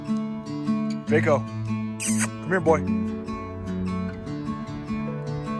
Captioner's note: kissing sound